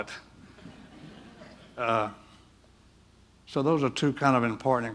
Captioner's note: audience chuckle